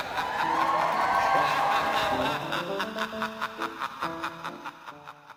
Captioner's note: man laughing; audience cheering